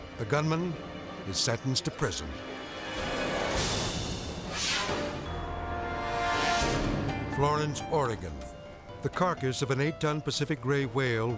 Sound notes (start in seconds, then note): 3.3 air whooshes; 6.8 gentle bright music